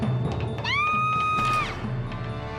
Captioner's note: screams